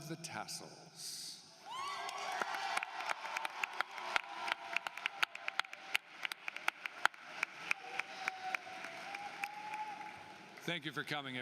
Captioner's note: applause